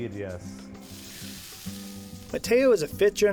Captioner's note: sizzling